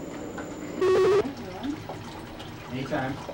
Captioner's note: beeping/buzzing